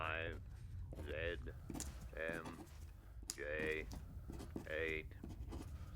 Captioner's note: voiceover